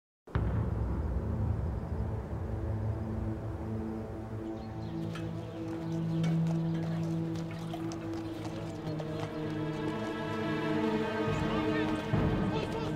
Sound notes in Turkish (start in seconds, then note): 0.3 Kuş cıvıltısı sesleri; 7.3 At nalı sesi